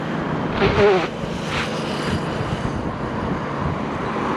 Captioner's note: blows nose DIRECTLY into mic!